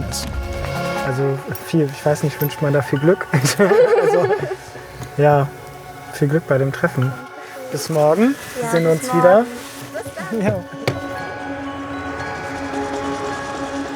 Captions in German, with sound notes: wie es gelaufen ist. Also viel ... ich weiß nicht, wünscht man da viel Glück? (Lachen) Ja ... Viel Glück bei dem Treffen. - Danke schön. Bis morgen, da sehen wir uns wieder. - Ja, bis morgen. Bis dann! (Unruhige Musik)